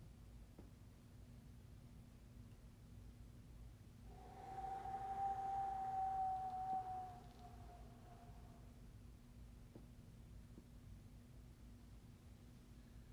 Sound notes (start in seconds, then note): 4.1 exhaling